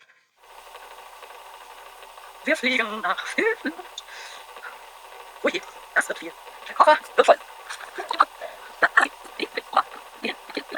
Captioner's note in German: Voice-over sehr schnell vorgespult